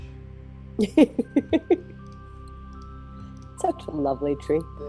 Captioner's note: laughs